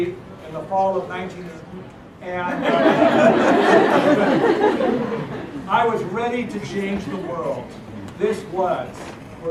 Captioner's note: laugh